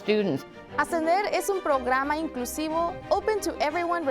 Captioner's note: student speaking in foreign language